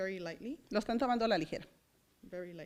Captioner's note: foreign language